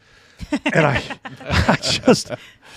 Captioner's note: panelists chuckling